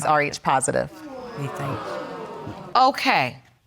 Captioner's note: audience gasping